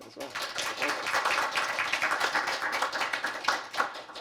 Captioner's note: applause